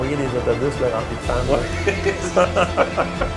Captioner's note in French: rires